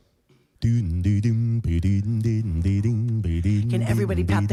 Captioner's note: beatboxing loudly